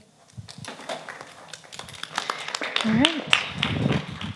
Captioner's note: crowd clapping